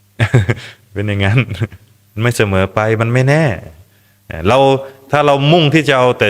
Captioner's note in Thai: เสียงหัวเราะ